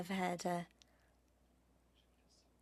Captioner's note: speaking French